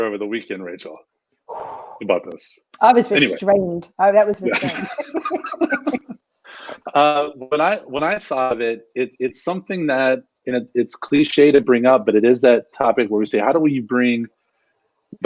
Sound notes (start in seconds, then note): 4.4 laughing